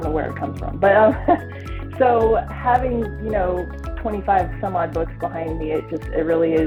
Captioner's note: chuckles